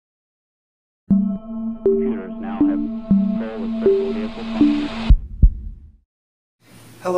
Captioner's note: intro sounds with heartbeat